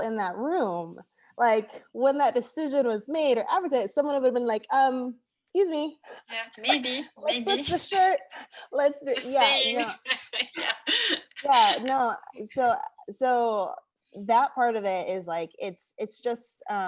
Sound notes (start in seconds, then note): 6.4 chuckles; 9.1 laughing